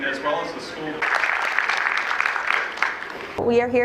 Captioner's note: applause